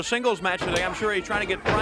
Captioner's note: crowd chatter